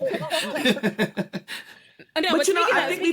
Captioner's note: laughter